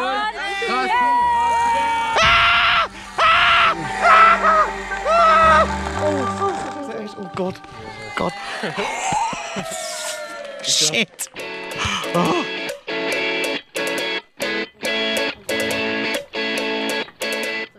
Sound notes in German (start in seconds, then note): 0.2 Anfeuerungs-Rufe; 2.4 Er schreit panisch; 7.3 Jubel; 12.0 Dynamische Musik